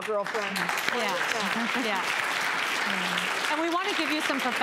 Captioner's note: audience applause